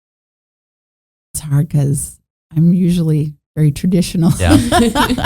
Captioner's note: chuckling